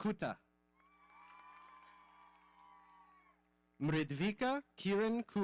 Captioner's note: audience cheering